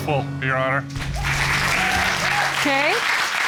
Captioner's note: cheers and applause